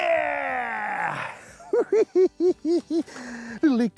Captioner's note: laughs